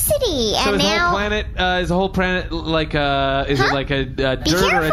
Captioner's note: chipper